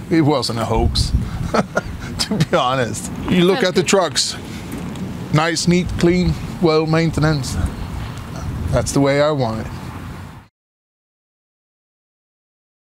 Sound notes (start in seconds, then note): 1.4 laughing